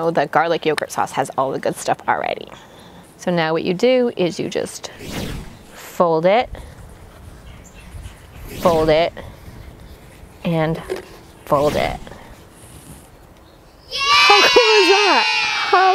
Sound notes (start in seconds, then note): 4.9 whooshing sound; 11.4 whooshing sound; 13.8 children cheering